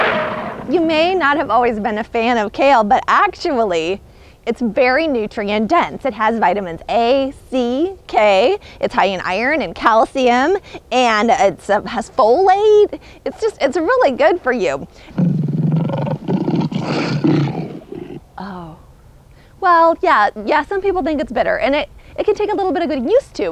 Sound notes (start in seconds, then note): 0.0 roars in agreement; 15.2 roars in disgust